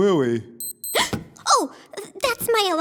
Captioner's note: beep beep